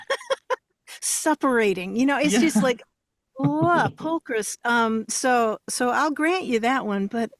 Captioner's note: laughs